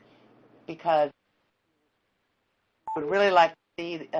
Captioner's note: sound cuts off; beeping